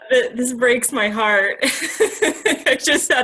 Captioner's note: laughs